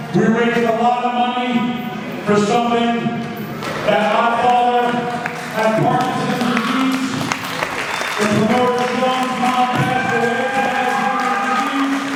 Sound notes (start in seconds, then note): 6.7 crowd clapping; 11.9 crowd cheering